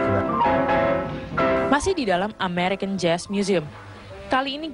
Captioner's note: non-english speech